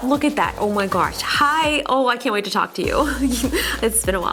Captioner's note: chuckles